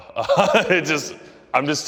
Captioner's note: laughs